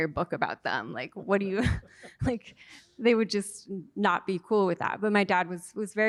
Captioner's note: laughter